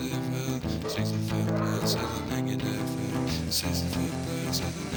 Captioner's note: dogs barking